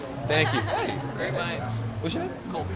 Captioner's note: laughing